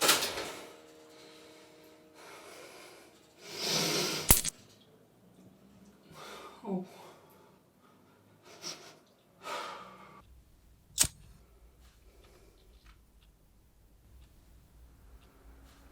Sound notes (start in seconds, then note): 4.2 electricity clicks off; 7.3 Gary sighing